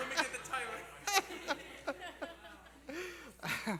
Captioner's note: laughter